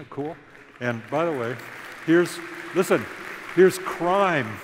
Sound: applause

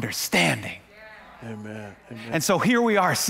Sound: congregants agreeing

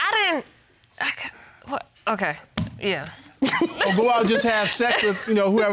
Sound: stammering

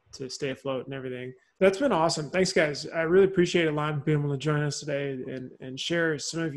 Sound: laughs

